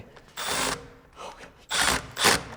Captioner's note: screw drill whirring